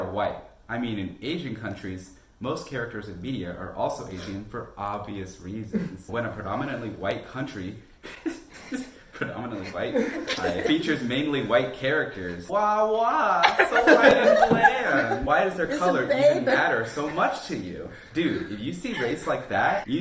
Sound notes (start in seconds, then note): 9.4 laughing